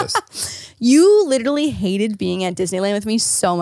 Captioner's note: laughing